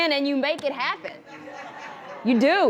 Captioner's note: audience laughter